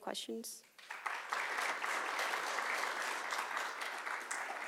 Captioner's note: audience clapping